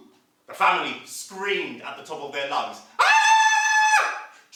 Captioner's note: sound of screaming